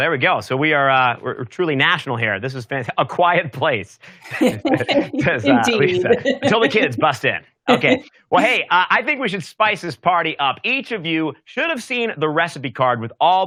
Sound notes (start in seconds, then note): 4.1 both laugh